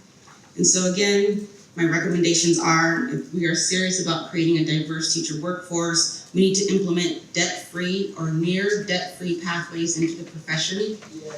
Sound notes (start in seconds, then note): none